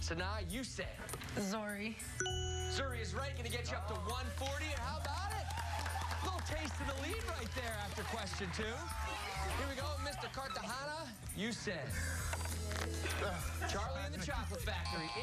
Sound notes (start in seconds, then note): 6.5 applause